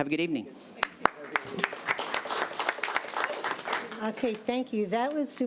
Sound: audience applauding

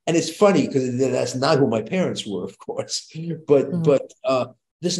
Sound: chuckles

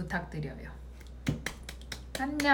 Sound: clap

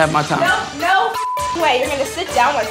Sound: beep sound

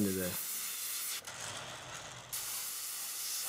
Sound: rattling; hissing

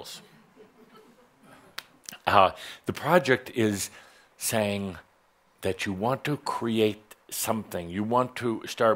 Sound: some giggles

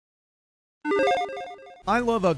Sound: logo beeps

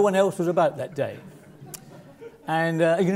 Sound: laugh

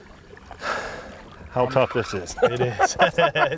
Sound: sighs; laughing

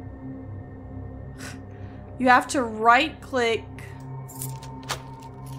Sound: small Huff

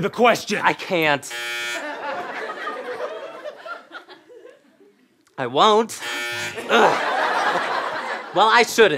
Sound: buzzing

